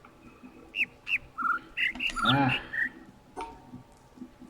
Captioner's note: overlapping birds chirping, ˥ ˥ ˩ ˧ ˩